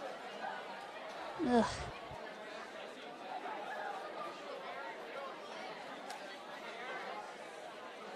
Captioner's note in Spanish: Julie tarareando